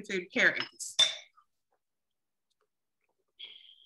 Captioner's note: glass clinks